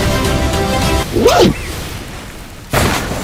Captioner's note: record scratch